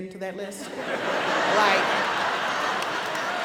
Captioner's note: audience laughs